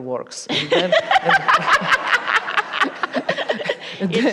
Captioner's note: laughter